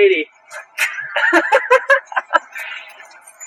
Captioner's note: obnoxious white laughter